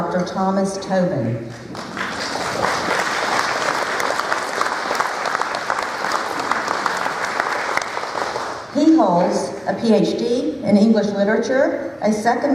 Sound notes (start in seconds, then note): 1.6 applause